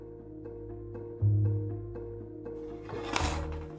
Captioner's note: tool sounds